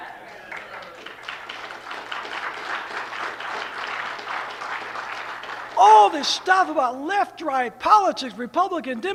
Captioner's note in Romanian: Aplauze